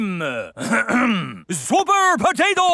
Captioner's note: clears throat